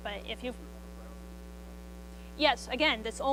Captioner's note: student speaks faintly